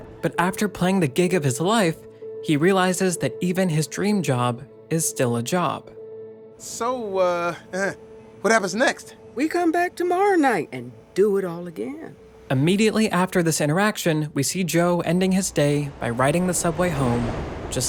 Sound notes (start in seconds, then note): 7.5 chuckles